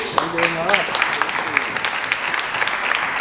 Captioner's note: applause